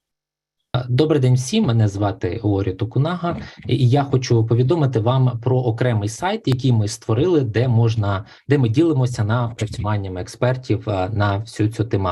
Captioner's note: foreign Language Spoken